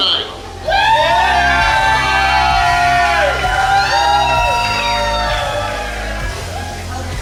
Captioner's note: cheering & Clapping